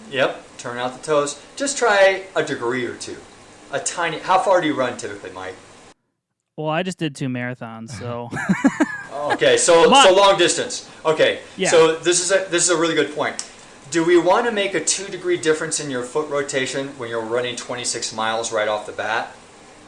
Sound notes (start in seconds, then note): 7.9 men laughing